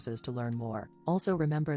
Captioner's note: robot voice